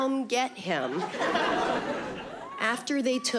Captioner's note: audience laughing